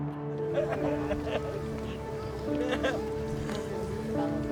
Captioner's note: crying